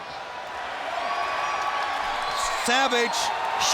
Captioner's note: crowd cheers